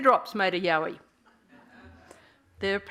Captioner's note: laughing